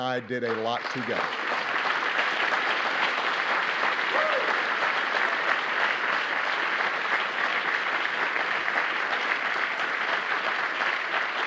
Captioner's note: applause